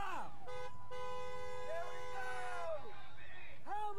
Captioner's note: car honking